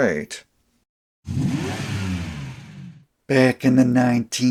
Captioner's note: engine sounds